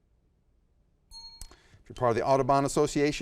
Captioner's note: bell rings